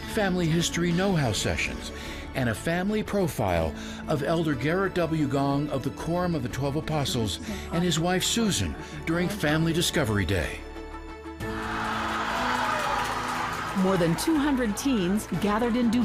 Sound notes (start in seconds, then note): 11.4 group cheering